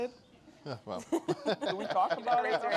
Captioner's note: laughter